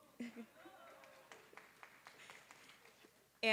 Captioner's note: laughter; applause